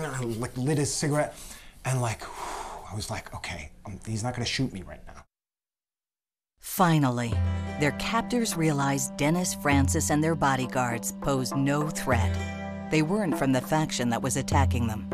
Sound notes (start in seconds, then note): 2.2 exhales